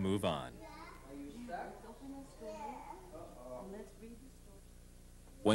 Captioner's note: people talking